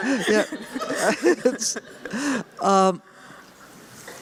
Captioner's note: laughter